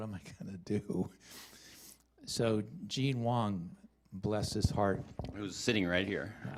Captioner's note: chuckles